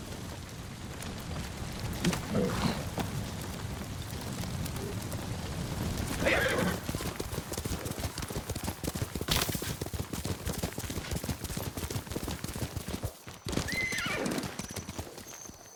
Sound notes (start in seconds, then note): 0.9 footsteps; 6.2 screaming